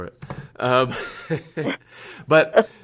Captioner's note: laughter